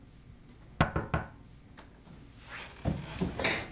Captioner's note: knocking on door